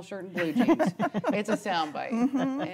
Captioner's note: laughing